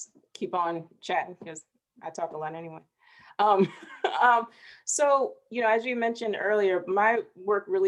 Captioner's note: chuckling